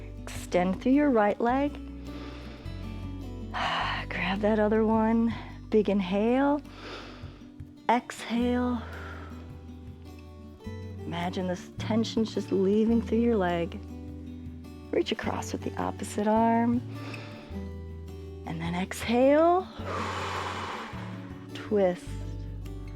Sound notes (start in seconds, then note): 2.0 inhales and exhales; 6.7 exhales; 6.7 inhales; 16.9 inhales; 19.7 exhales